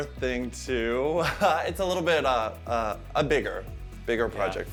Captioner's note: chuckles